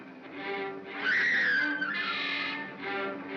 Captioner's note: suspenseful music; Bo Peep screams; Barnaby cackles